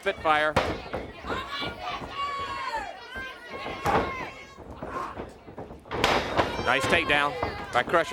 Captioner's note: crowd cheering